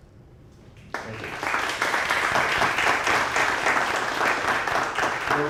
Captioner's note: audience applauding